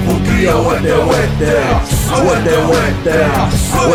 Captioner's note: non-english speech